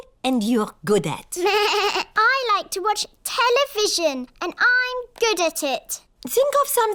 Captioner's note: bleats